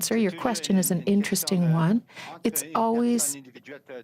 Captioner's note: speaking french